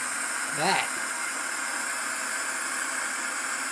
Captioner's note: talking over static